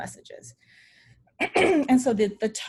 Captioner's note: clears throat